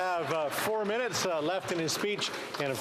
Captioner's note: some Applause